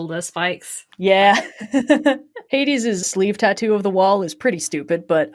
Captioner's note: laughs